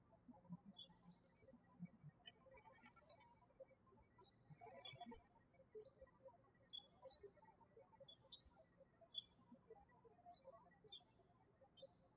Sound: birds chirping

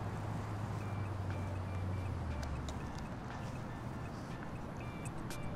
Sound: phone chiming

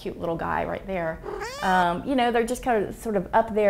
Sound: kitten meows

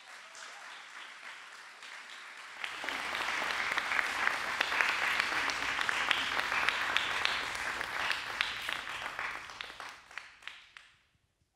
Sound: applause

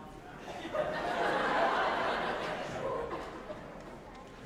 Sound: all laughing

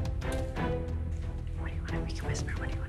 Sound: whispering

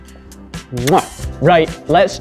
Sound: blows kiss

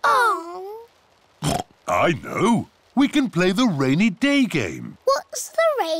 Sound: oinks

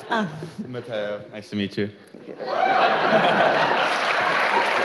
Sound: cheering

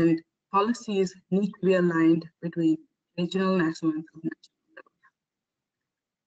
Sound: audio static

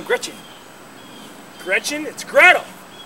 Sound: birds chirping

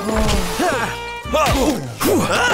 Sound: grunting

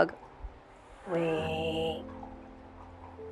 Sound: Sir Carlos hissing

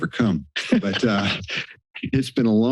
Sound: laugh

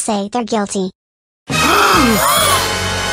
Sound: both gasp

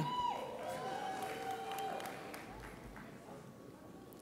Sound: audience applauds

